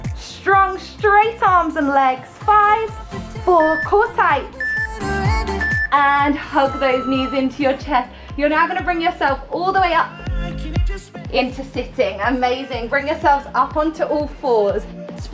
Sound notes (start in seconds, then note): 3.3 timer beeping